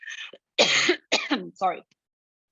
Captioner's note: coughing